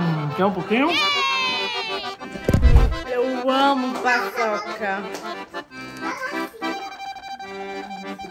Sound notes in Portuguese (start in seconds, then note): 0.7 Efeito sonoro de transição